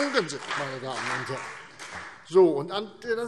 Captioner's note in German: Beifall